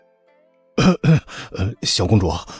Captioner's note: clears throat